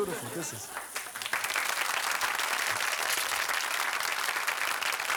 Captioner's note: audience applauding